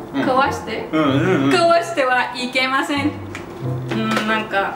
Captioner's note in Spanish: haha